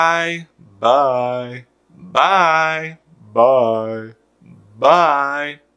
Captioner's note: speaking